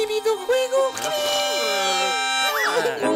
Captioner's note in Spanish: Grita